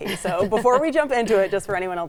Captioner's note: laughing